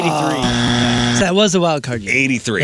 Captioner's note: buzzer